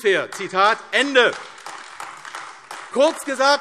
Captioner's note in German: Beifall AfD